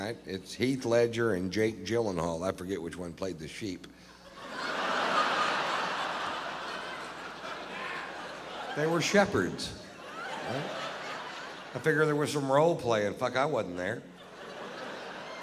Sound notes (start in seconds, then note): 4.2 laughter